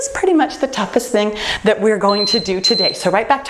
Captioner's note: timer beeps